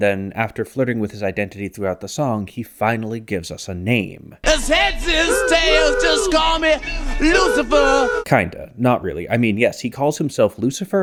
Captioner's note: bang